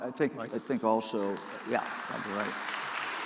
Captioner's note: applause